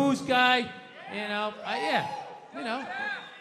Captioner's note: crowd cheers